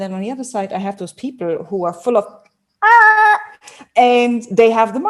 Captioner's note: shouts softly